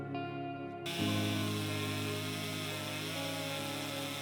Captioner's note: chainsaw roaring